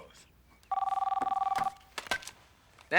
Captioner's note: phone rings